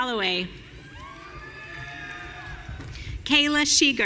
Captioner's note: audience cheering